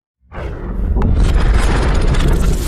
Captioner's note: booming